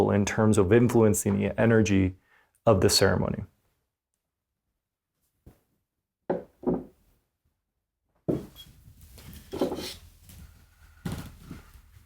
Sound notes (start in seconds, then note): 6.6 tapping